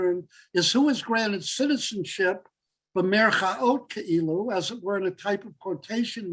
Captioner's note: Hebrew